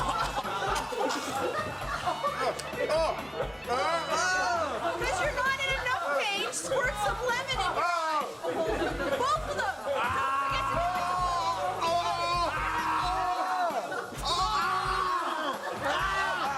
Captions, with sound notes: Because you're not in enough pain, squirt some lemon in your eyes! Both of them! [SCREAMING_]